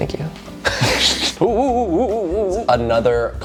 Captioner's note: both chuckling